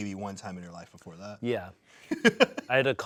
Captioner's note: laughs